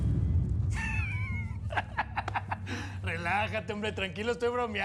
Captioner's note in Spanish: risas